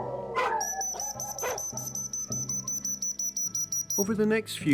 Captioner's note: whistle blowing